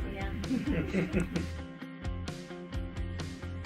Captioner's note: laughs